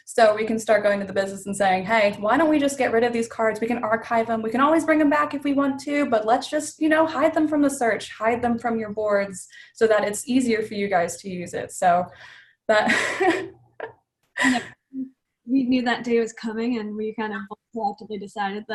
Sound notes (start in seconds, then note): 12.7 laugh